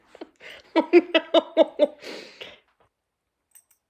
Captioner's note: laughing